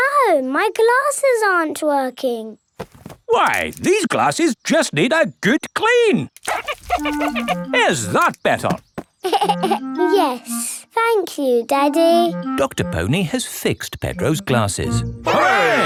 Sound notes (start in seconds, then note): 9.2 giggles